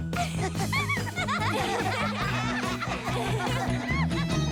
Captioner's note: both laughing